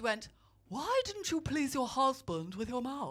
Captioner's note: posh voice